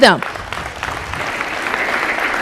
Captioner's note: applause